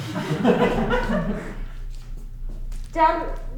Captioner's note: crowd laughing